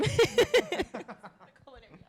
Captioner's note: laugh